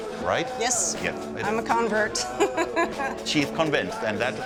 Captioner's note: laughs